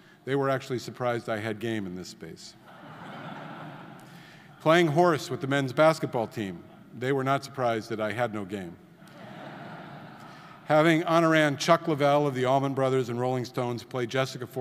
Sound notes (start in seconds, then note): 2.6 audience laughing; 9.0 audience laughing